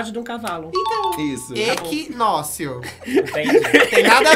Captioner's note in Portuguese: risos